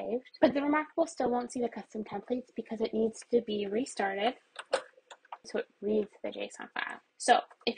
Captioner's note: button clicks